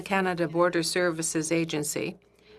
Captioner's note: speaking French